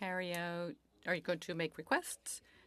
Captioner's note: speaking French